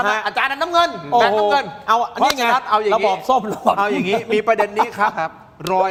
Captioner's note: laughter